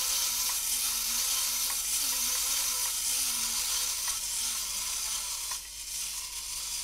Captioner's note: mechanical whirr of robot